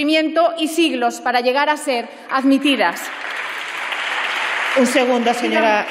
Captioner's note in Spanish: Aplausos